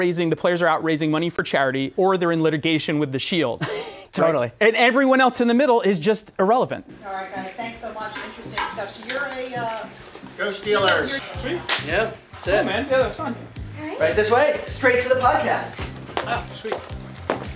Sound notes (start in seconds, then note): 3.6 laughter